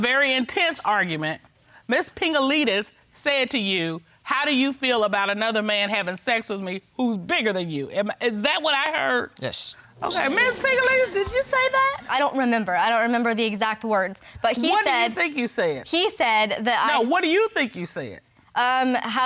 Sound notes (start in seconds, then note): 10.0 audience exclaiming